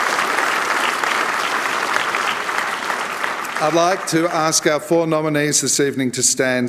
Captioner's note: applause